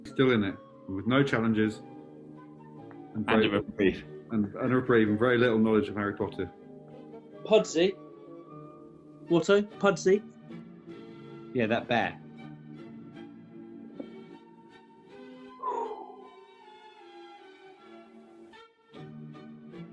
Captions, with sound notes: Still in it. With no challenges. And a reprieve. And a reprieve, and very little knowledge of Harry Potter. Pudsey. Watto? Pudsey? Yeah, that bear. [EXHALES]